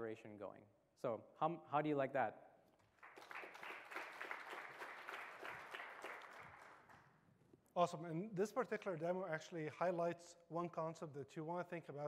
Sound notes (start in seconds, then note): 5.6 applause